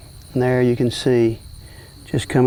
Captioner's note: background insect sounds